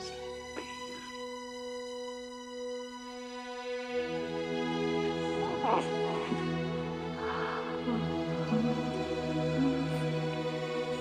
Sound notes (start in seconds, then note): 5.5 baby gurgling; 8.4 soft music